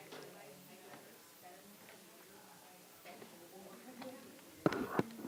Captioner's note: audience chattering softly